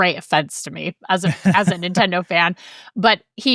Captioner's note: laughing